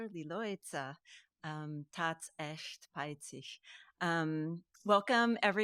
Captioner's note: speaking in foreign language